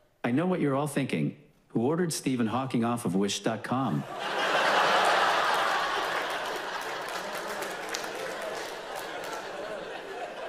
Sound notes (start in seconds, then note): 4.0 audience laughs